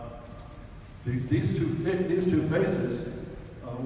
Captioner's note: none